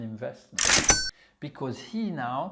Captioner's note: cash register sounds